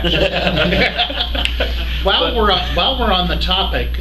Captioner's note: laughter